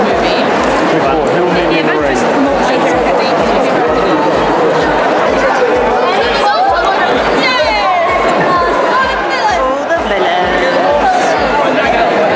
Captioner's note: crowd noise